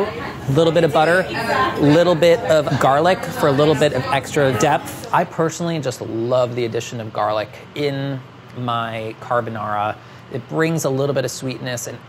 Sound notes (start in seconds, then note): none